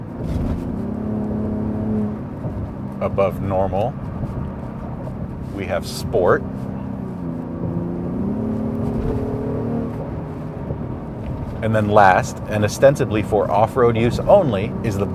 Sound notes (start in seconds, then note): 0.2 car engine revving; 6.7 car engine revving